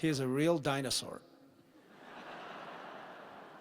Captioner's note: laughter